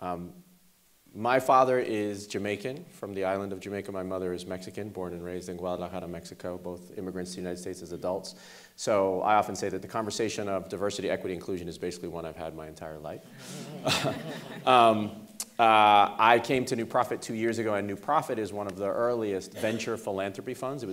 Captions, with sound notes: My father is Jamaican from the island of Jamaica. My mother is Mexican, born and raised in Guadalajara, Mexico, both immigrants to the United States as adults. So I often say that the conversation of diversity, equity and inclusion is basically one I've had my entire life. (laughing) I came to New Profit two years ago and New Profit is one of the earliest venture philanthropy funds.